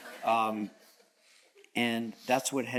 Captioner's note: audience chuckles